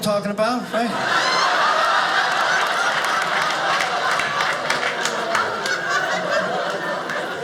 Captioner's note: audience laughing